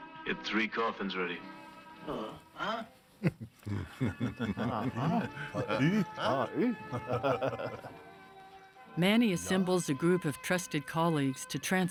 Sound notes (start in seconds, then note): 3.2 chuckling, imitating coffin maker